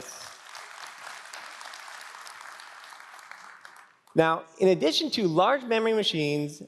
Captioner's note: applause